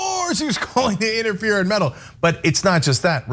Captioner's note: laugh